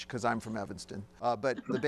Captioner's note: woman chuckles